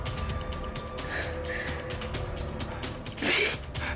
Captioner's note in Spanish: Sollozos